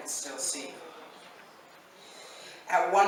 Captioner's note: none